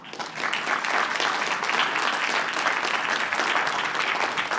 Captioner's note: applause